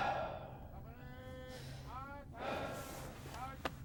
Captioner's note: man sighing and panting; army chanting